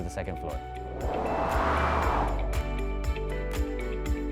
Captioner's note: whooshing